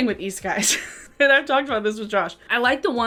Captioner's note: chuckles